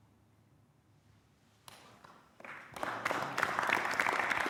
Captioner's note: applause